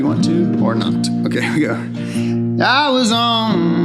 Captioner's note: chuckles